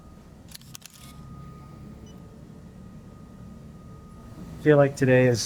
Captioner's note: camera clicks